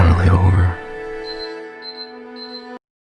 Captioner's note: beeping